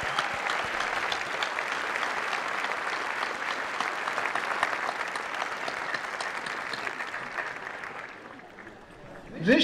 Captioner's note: applause